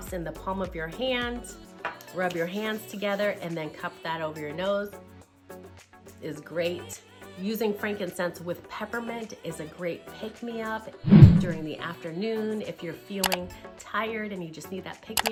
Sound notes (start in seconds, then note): 11.0 words whoosh; 13.3 arrow clicks; 15.1 arrow clicks